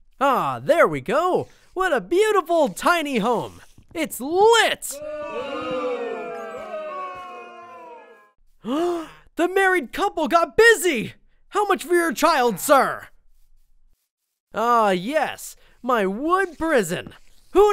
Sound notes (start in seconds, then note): 4.9 crowd booing; 8.7 gasps